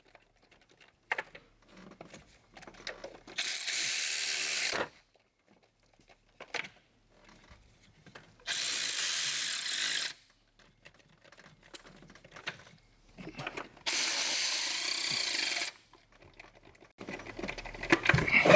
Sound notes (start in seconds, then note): 5.4 silence